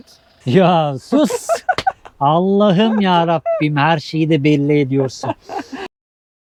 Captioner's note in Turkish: kahkaha